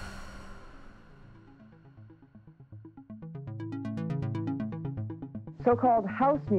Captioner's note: soundbite of archived recording